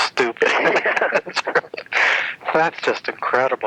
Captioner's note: laughs